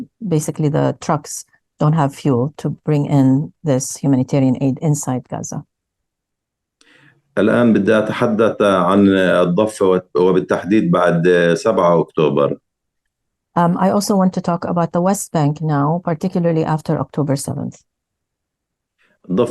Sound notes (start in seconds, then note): 7.2 speaking arabic; 19.3 speaking arabic